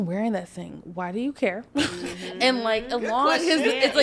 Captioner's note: chuckles